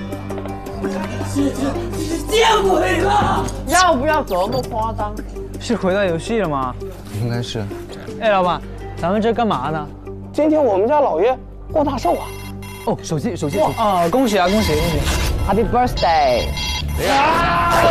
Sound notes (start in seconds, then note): 15.4 the horrible ring